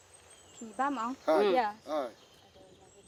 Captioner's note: speaks in foreign language